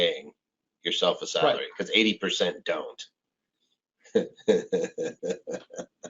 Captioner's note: laughs